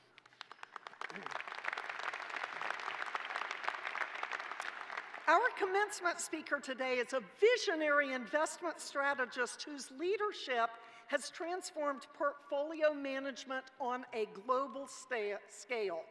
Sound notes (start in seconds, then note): 2.6 applause